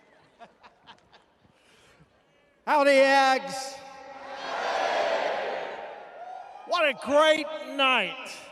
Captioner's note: cheers